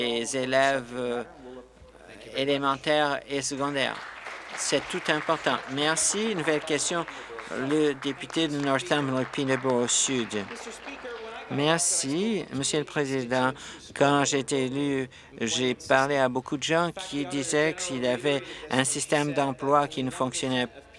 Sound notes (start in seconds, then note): 7.9 applause